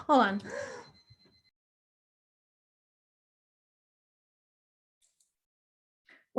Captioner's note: alarm beeps